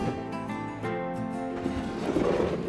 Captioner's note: drawer scratching